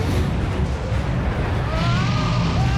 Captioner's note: screams